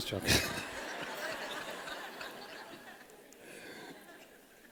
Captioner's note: laughter